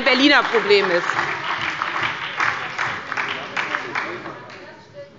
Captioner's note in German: Beifall bei der SPD – Zurufe von der CDU